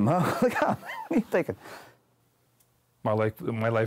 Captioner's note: laughs